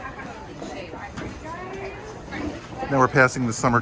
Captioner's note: people chattering